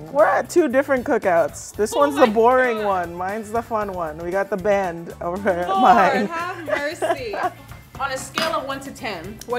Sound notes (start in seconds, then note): 5.6 laughing